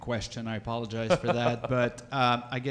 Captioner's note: laughing